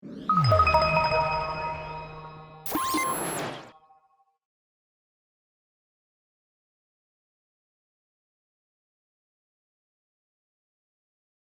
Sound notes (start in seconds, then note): 0.3 logo chimes; 2.8 logo beeps